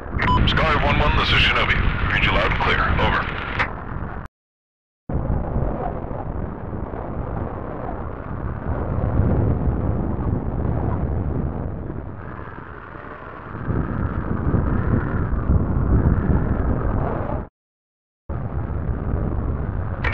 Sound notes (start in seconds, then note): 5.1 rushing wind